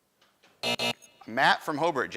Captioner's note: buzzing